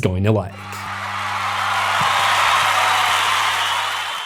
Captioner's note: crowd Cheering